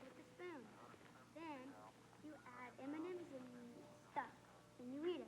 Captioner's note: chatter continues